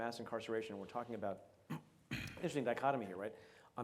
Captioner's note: clears throat